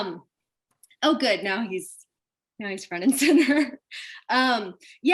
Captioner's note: chuckles